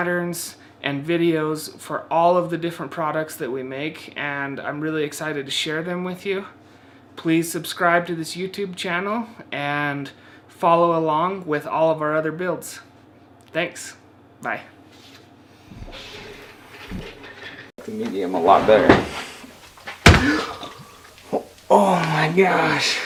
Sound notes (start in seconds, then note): 20.0 gasps